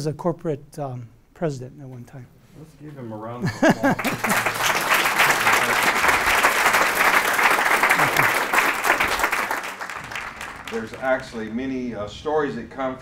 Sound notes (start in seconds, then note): 3.4 laughs; 3.6 applause